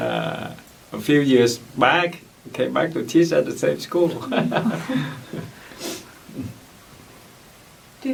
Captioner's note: laughs